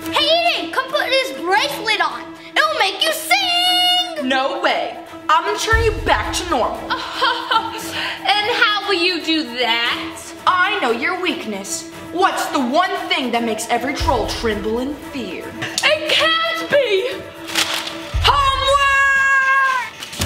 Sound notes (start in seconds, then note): 0.0 dramatic music; 6.8 laughs